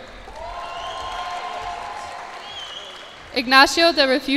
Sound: cheers and applause

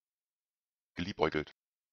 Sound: fast Pronunciation

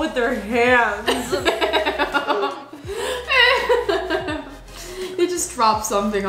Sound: laughs

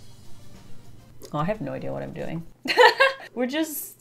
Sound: laughs

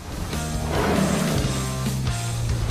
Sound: roar

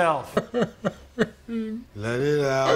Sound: Keegan crying

